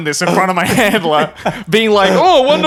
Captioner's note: laughing